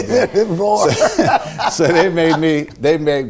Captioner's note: laughing